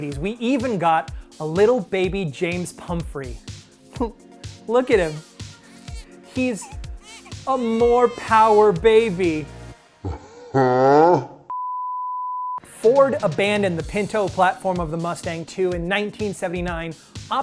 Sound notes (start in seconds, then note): 10.1 laughs; 11.5 beep